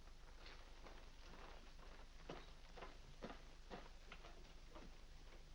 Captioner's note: soft footsteps up stairs